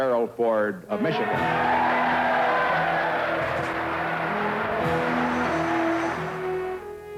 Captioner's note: audience cheering and applauding